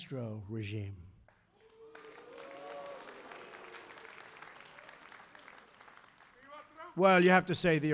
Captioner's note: applause